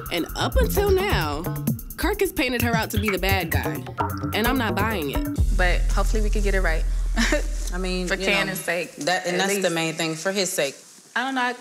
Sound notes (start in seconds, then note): 7.2 chuckles